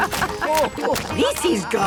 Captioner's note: laughing